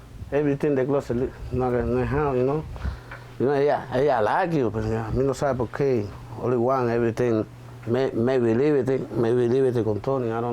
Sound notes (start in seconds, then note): 4.0 speaking spanish